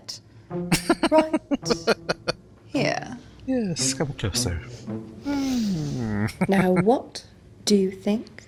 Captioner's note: laughing